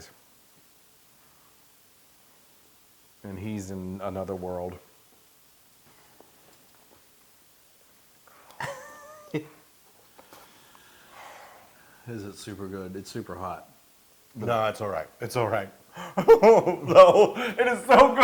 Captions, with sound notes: And he is in another world. [LAUGH] It is super good. It's super hot. >> No, it's all right, it's all right. [LAUGH] No, it is so good.